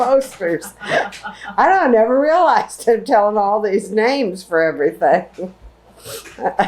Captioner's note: laughter